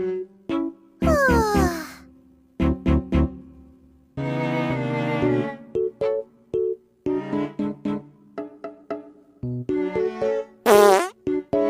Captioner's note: yawning